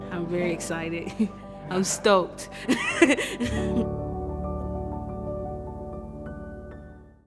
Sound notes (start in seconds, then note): 2.6 laughs; 4.3 light music